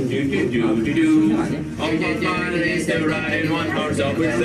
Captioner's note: making the dolls while humming carols